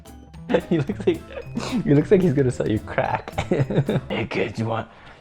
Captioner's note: laughs